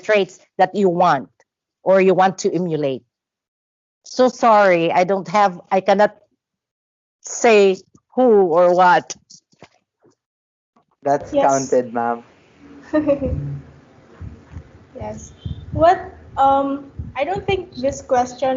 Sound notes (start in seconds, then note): 11.1 laughs